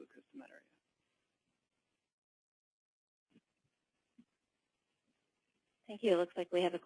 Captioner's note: pause